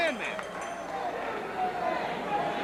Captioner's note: bell ringing